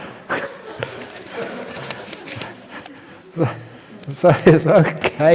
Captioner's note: laughter